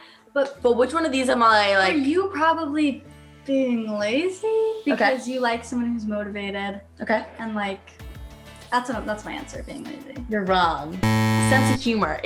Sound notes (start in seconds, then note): 11.0 buzzer